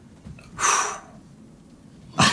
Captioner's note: exhales; laughs